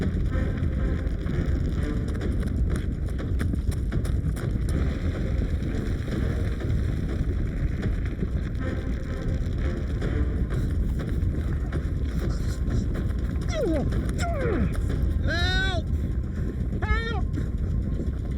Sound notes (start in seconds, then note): 11.8 Larry panting; 13.6 Larry groans